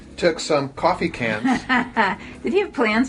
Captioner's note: woman laughing